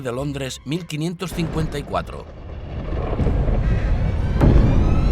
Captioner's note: thunder crashes; eerie music